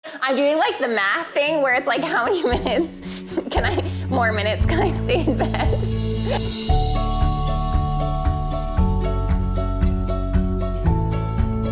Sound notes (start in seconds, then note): 2.0 giggles; 6.4 laughs; 6.9 melodic, upbeat instrumental music